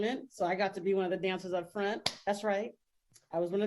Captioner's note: clapping